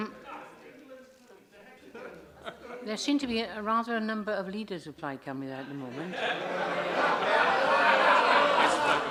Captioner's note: laughter